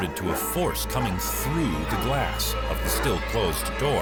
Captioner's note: laughs